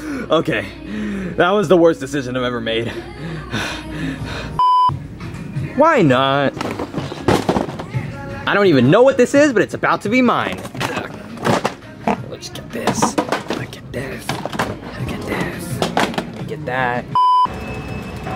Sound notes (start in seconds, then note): 0.5 panting; 3.1 Junior panting; 4.6 beeps; 6.5 box clatters; 10.9 Junior grunting; 12.8 toys clattering; 17.1 beep; 18.1 equipment creaks and clangs